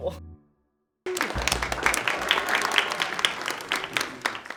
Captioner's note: applause